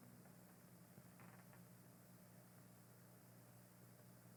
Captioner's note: door creaking slightly